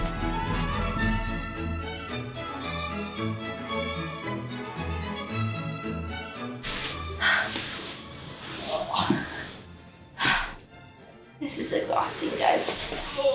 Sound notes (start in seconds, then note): 6.6 heavy breathing